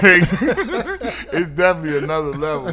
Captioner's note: laughing